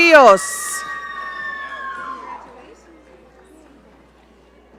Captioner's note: audience cheering